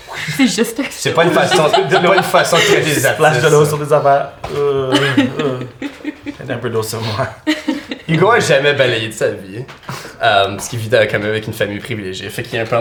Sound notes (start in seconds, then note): 1.1 laughter; 4.8 Zara laughs